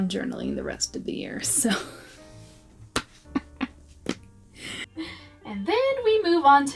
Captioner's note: laughing at myself